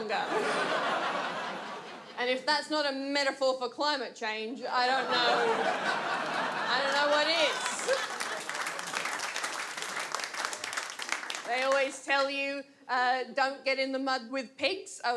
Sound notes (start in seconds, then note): 0.1 audience laughs; 4.9 audience laughs; 8.6 audience laughs and applause